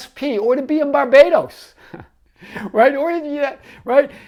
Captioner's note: chuckles